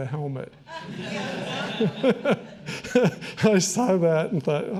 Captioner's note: all laughing